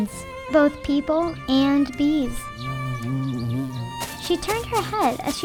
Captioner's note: bee buzzing